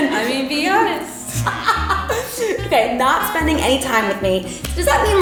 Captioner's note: laughs